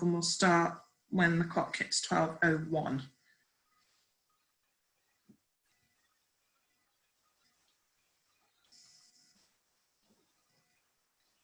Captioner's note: silence